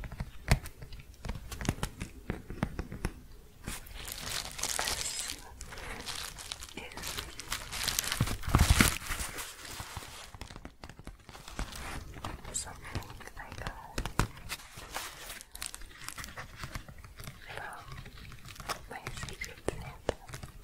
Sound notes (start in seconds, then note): 8.0 shuffling, then tapping; 14.3 shuffling and crinkling